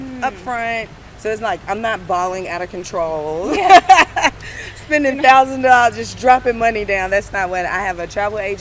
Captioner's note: laughs